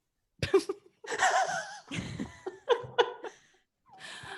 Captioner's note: laughing